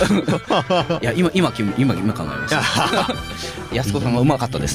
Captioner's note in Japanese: 笑い